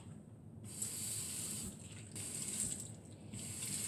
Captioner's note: running water